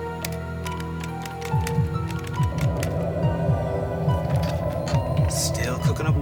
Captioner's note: heartbeat beating